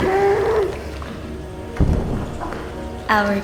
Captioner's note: muffled screaming